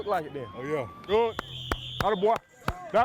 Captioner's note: clapping